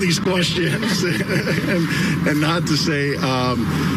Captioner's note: laugh